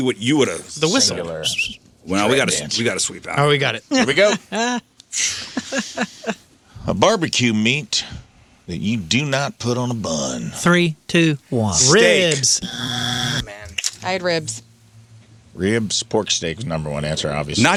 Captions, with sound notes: what you would have seen? The whistle. Well, we gotta sweep out. Oh, we got it. Here we go. (laughing) A barbecue meat that you do not put on a bun. Three, two, one. Ribs. (buzzer) I had ribs. Ribs, pork steak is number one answer, obviously.